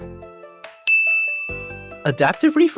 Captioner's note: ding